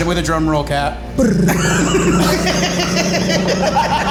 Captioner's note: tongue rattling; group laughing